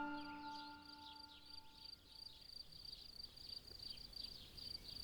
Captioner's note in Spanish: grillos